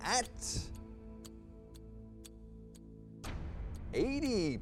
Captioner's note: clock ticking; ominous music